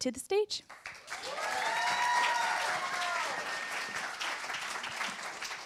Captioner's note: applause